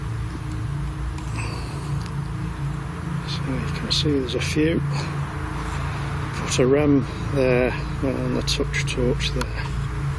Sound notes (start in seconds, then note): none